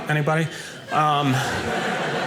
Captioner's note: audience laughing